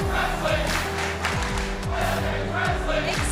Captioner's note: fans chanting